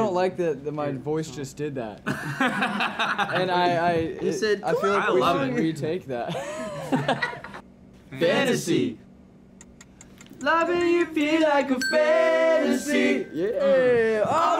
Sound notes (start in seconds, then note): 2.1 laughing